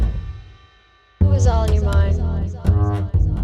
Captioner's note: voiceover